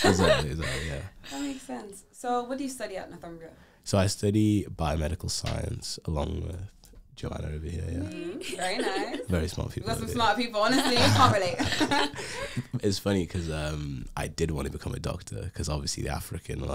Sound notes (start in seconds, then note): 7.8 laughs